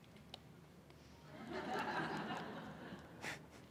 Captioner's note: audience laughing